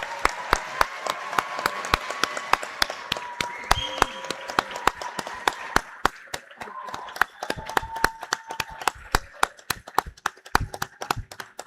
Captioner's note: cheers and applause